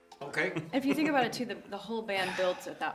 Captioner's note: laughs